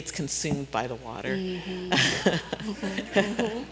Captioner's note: laughing